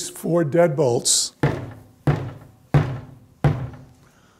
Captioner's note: banging sound